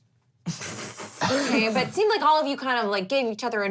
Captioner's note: laugh